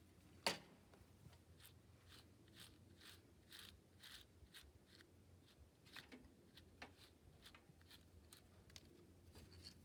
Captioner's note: brush noises